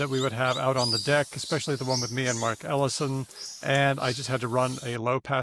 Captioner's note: new holland honeyeater sounds